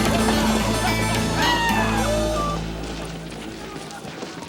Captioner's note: riders howl